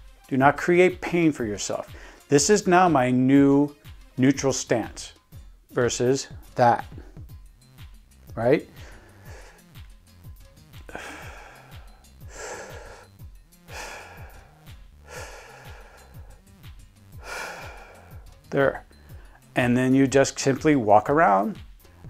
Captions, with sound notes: Do not create pain for yourself. This is now my new "neutral stance". Versus that. Alright? (inhaling and exhaling 3 times completing the technique) There. And then you just simply walk around,